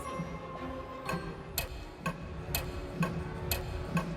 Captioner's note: clock ticking